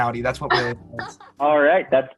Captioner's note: laughs